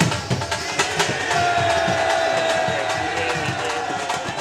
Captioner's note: boos